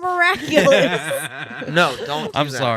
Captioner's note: laughing